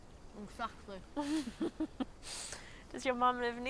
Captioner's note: chuckling